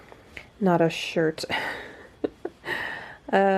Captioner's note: laughs